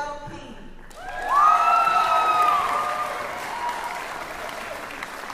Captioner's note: cheering